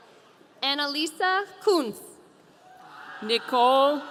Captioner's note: audience cheering